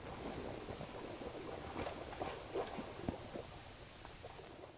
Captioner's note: water splashes